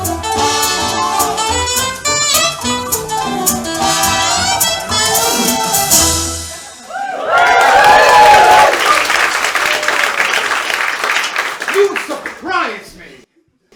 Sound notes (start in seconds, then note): 6.6 cheering and applause